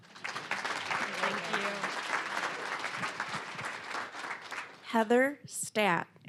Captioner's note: applause